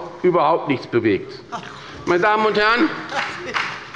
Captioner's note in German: Beifall bei Abgeordneten der SPD